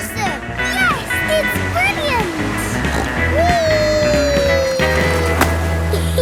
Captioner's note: snorts; giggle